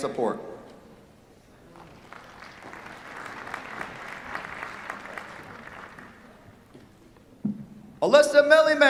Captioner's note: applause